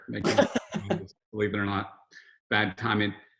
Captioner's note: Robert laughs